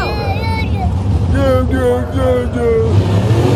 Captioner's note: babbling